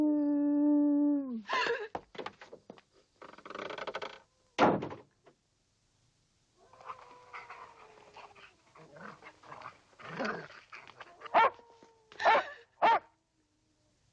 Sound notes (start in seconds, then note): 1.6 Priscilla gasps; 4.6 door thudding; 12.2 dog barking